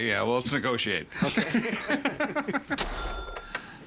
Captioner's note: laughing